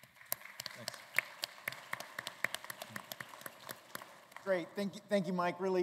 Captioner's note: applause